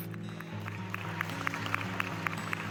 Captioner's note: cheering